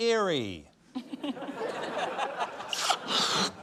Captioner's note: laughter